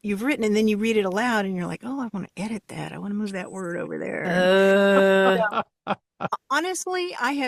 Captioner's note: laughs